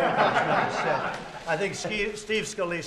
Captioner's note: laughter